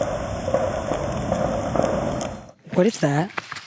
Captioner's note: object banging